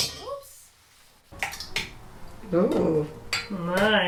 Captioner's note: utensils banging; liquids sploshing